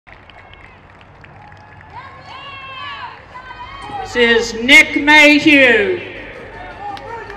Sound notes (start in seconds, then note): 0.0 crowd cheering and clapping